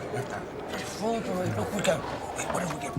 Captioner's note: mumbles through his food